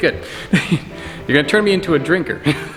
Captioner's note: laughs; laughs